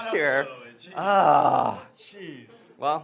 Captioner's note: sighs